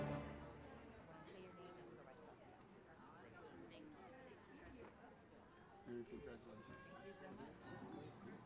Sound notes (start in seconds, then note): 2.0 audience murmurs